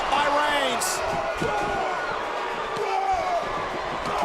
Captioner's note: crowd roars